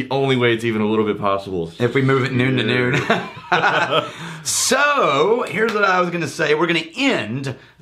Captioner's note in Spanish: riéndose